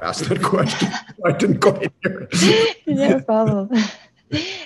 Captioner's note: laughter